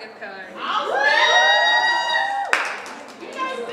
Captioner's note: audience cheers